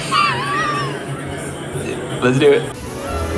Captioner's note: chuckles